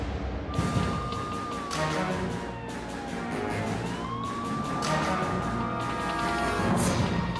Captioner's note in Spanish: Sirenas de policía